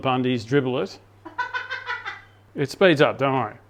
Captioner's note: laughing